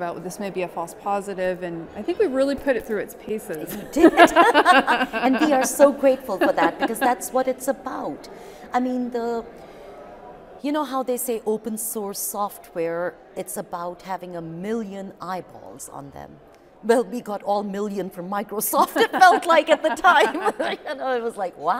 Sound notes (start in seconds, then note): 3.7 laughing; 18.9 laughing